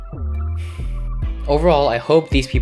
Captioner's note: blows air out of nose